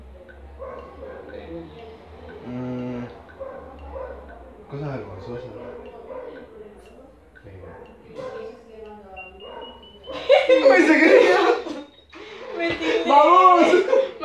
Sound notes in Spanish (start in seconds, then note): 9.7 Ruido de bomba y risas